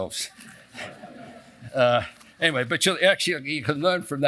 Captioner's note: laugh